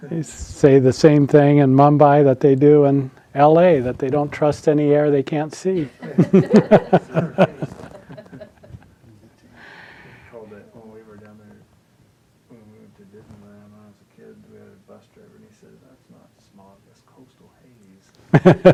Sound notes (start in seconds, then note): 5.8 laughs; 18.3 laughing